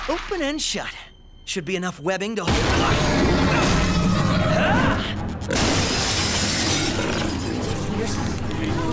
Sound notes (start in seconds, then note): 2.8 roaring; 5.5 shattering; 7.6 chatter